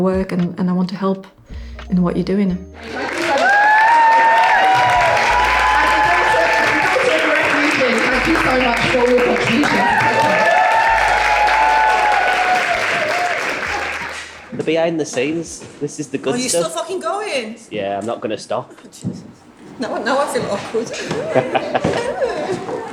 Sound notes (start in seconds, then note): 10.4 audience Cheers